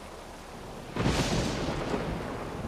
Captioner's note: thunder